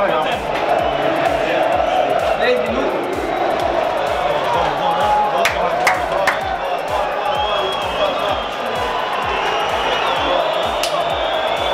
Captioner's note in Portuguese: sons da torcida